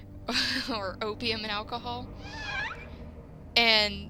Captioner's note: laugh